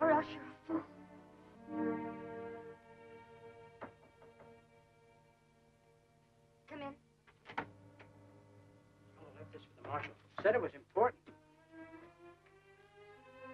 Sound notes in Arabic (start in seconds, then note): 4.1 طرق خفيف